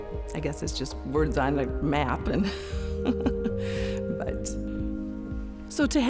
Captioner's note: chuckles